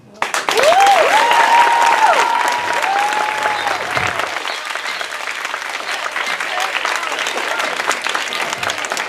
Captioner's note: audience Cheers & Claps Loudly